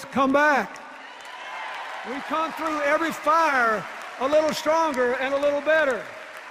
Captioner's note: cheers and applause